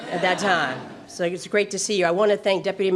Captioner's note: laughter